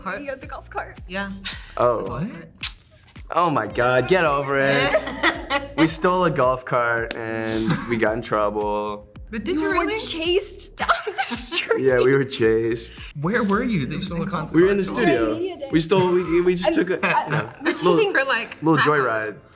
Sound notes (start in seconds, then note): 2.5 smacks lips; 4.1 laugh; 10.8 laughing